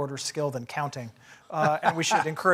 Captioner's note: laugh